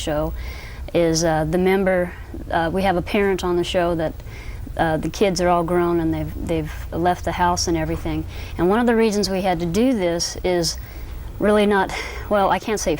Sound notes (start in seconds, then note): none